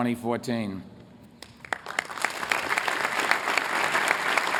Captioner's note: applause